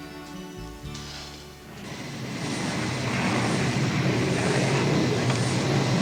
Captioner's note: airplane engine whirring